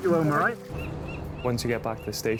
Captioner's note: seagulls squawking